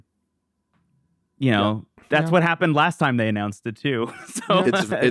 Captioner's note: laughs